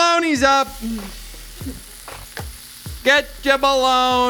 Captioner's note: bologna sizzling